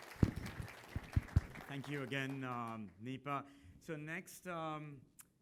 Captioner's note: applause